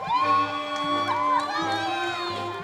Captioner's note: crowd cheering